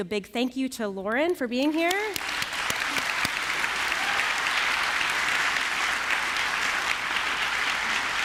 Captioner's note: applause